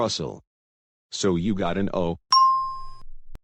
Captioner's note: ding